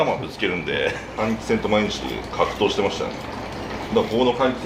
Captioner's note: laughter